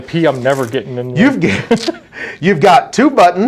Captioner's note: laughs